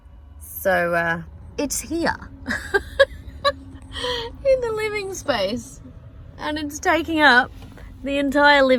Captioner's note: laughs